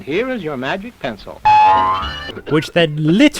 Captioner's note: microphone boings